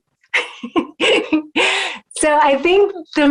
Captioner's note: laughing